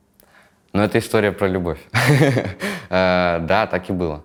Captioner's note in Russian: Смеётся